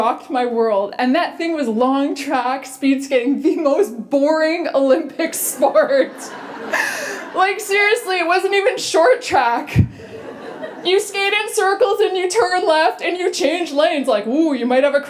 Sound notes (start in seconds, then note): 5.5 laughter